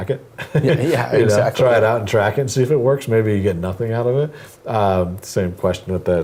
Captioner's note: laugh